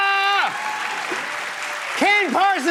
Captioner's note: cheers and applause